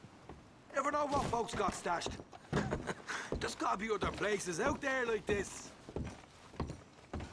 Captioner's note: laughs